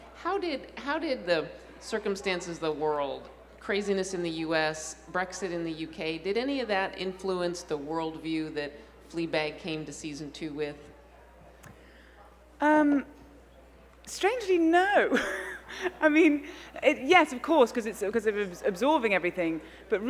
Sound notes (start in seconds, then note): 14.8 laughs